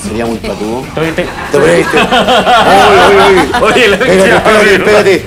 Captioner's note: laughs